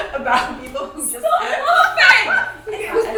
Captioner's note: laugh